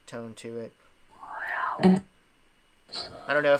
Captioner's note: whispering